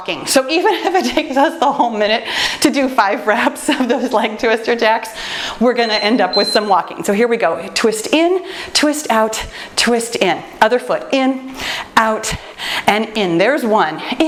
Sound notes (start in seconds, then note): 5.1 laughs; 5.7 timer beeps